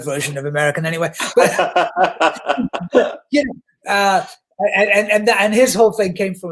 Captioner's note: guffaws